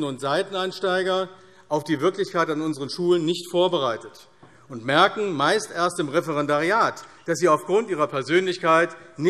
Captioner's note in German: none